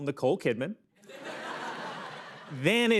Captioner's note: laughter